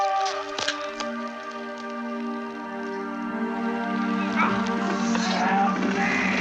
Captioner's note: screaming